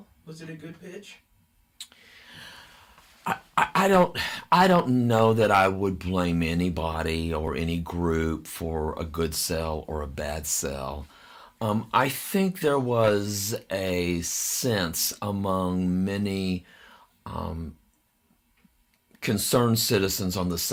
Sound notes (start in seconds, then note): 4.0 sighs